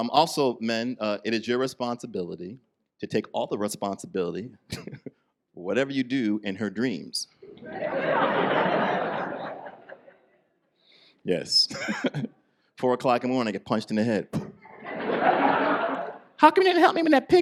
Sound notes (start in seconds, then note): 4.7 chuckles; 7.5 audience laughs